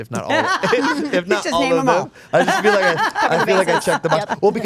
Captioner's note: group laughing